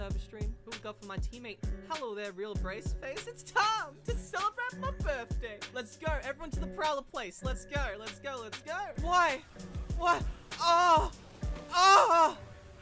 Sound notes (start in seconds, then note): 11.6 screams